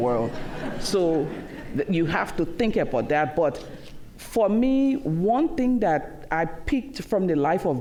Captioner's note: laughter